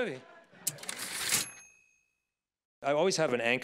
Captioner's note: typewriter ding